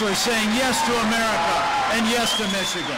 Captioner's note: applause